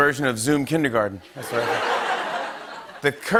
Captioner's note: laughter